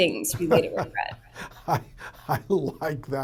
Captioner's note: laughs